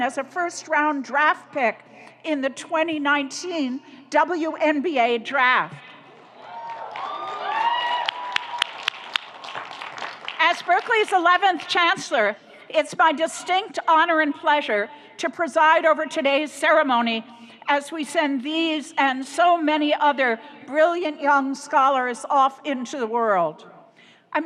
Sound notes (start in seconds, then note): 6.4 audience cheers; 6.5 audience applauds